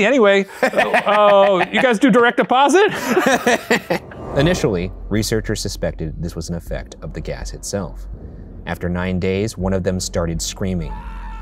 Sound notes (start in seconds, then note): 2.8 both laughing